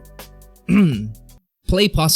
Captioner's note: clears throat